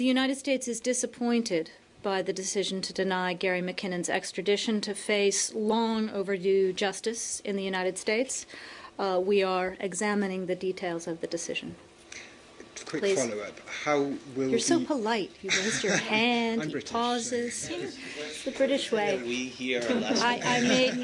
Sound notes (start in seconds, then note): 17.0 laughter